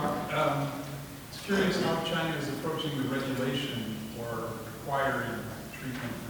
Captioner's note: indistinct conversation